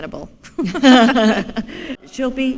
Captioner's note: laughter